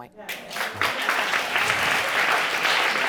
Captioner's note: audience applauding